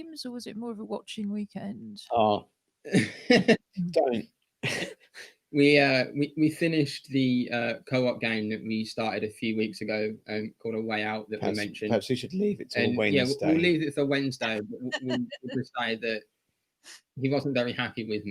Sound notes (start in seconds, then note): 4.6 laughter; 14.9 laughter